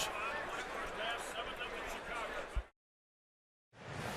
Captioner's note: pa announcement